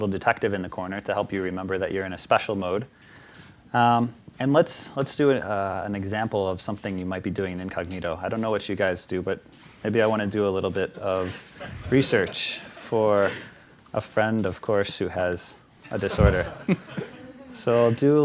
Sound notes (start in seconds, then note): 15.9 audience laughs